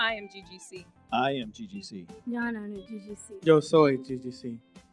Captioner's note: in Malayalam